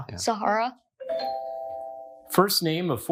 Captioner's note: bell dings